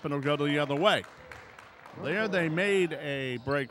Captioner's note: clapping